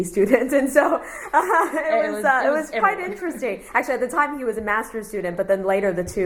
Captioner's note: laughs